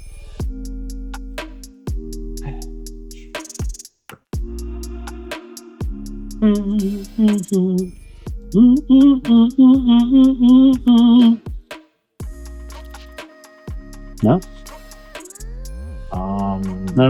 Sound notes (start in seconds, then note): 2.4 sighing; 6.4 humming